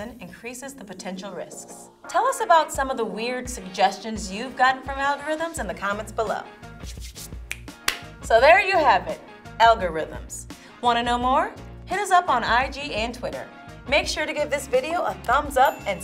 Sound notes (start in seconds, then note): 6.8 rubs hands together; 7.8 claps; 7.8 snaps